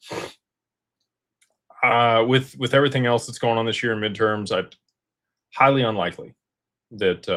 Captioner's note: snorts